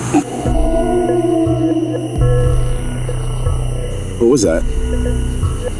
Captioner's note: creature howls